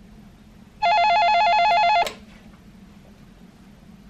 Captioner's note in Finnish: Puhelimen pirinää